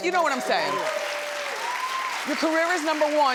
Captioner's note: audience cheers